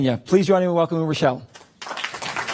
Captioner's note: applause